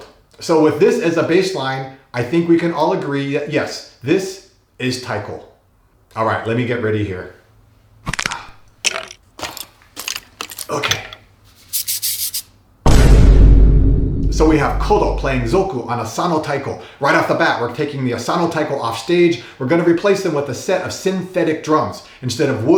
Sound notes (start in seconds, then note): 8.0 disturbing crunching noises; 12.8 dramatic boomclap